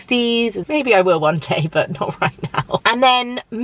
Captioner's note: chuckling